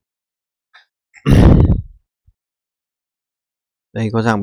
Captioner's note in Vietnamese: khịt mũi